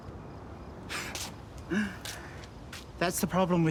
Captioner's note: scoffs